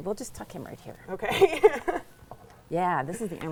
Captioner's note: laughs